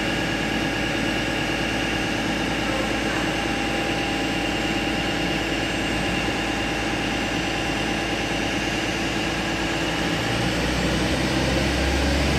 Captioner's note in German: Zug fährt los